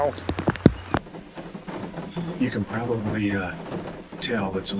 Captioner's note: rain falling